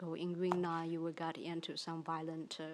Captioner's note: speaks in foreign language